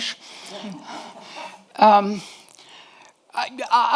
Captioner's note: audience laughs